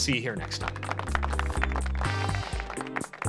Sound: applause

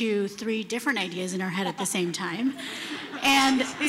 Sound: laughter

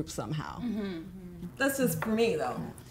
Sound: women agreeing

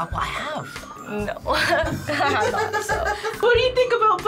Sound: laughs

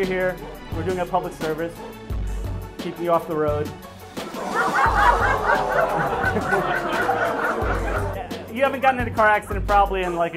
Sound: laughs

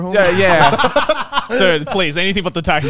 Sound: all laughing

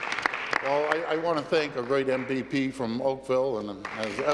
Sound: applause

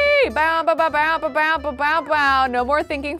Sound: beatboxing

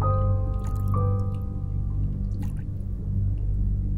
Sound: light splish splashing

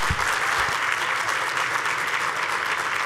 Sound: applause

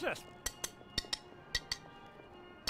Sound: tap tap

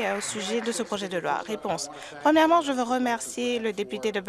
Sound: some Applause

